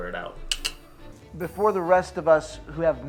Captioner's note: Homeless Hugh tongue clicks